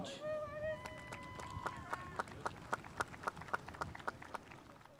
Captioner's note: spectators applauding